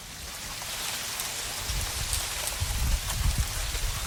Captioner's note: wind Rustling